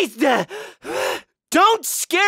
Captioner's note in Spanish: suspira